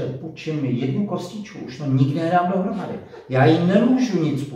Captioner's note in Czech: Smích